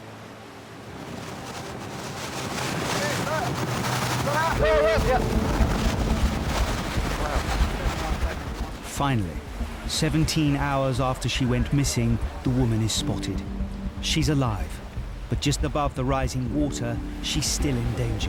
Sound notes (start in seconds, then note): 1.0 waves roar